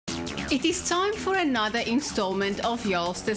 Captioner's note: narrating